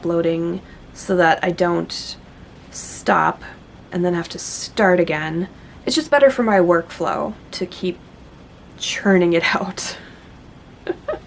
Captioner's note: laughs